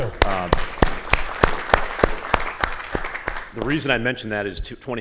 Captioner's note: audience applauding